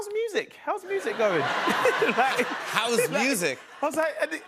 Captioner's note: laughter